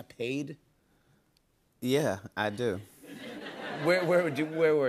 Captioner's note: laughter